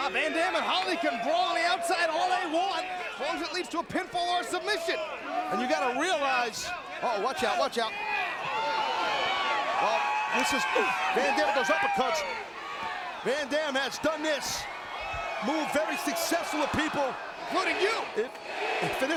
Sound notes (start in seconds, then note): 9.1 crowd cheering; 18.2 crowd chanting